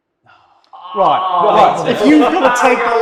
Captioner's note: panel groans